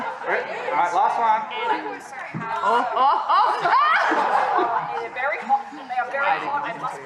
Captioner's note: laughter